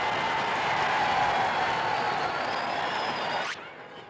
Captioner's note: crowd cheers